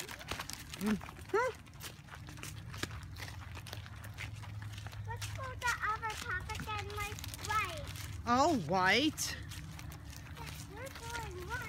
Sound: walking

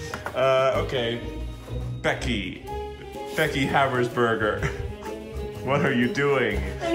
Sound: chuckles

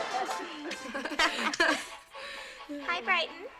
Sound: all laugh

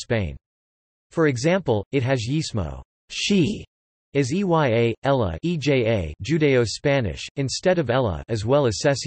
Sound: judaeo-Spanish

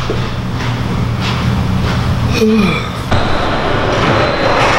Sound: gym background noise

